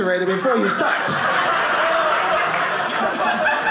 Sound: audience laughing

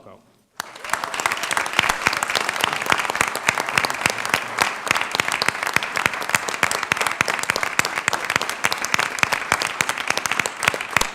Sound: applause

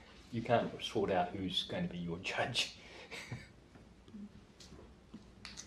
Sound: laughs

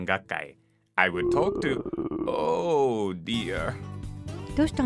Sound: stomach growling

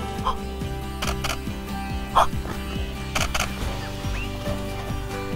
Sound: camera shuttering

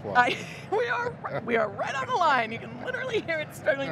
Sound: laughter

